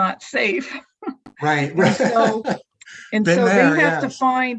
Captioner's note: laughs